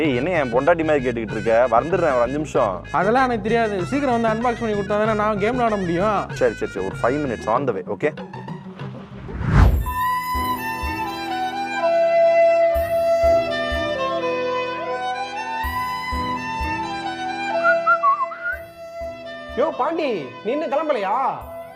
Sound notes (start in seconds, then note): 17.5 whistles